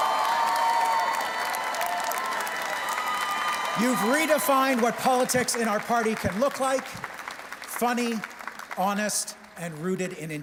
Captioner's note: cheers and Applause